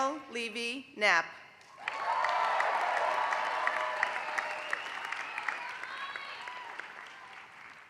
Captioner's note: applause